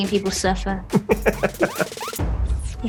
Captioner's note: laughs